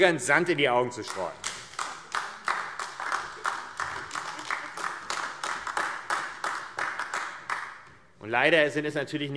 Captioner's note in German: Beifall AfD